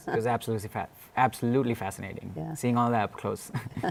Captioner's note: laughter